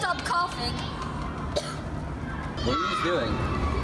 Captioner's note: coughing